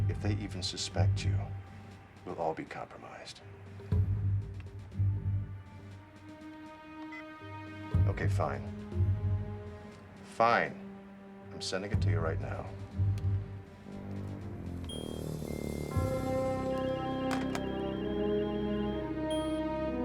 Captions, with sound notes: If they even suspect you, we'll all be compromised. Okay, fine. Fine. I'm sending it to you right now. (beeping)